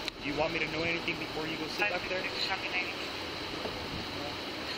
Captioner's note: radio chatter